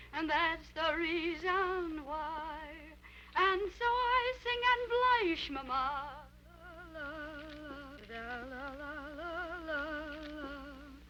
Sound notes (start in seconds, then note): 6.8 Becky humming